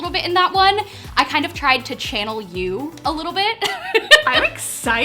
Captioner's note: laughs